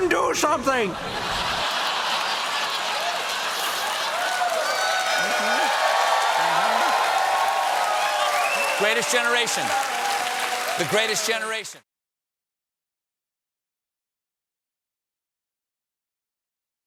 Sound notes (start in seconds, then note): 6.0 cheers and applause; 6.0 laughter